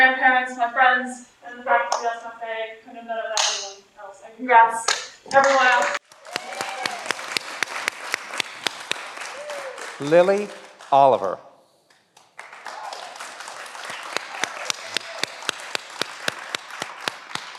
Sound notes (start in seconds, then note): 5.4 everyone applauds